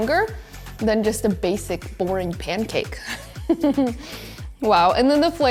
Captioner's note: giggles